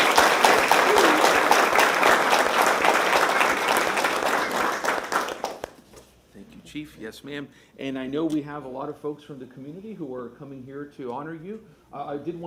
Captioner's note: applause